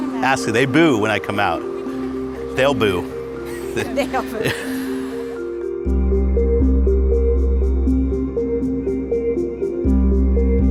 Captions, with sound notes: Ask them, they boo when I come out. They'll boo. [Laughter] >>They'll boo.